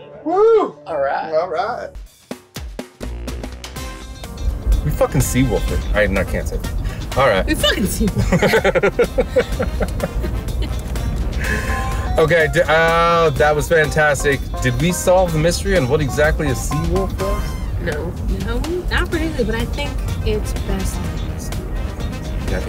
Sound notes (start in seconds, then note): 2.3 upbeat music; 8.1 laughing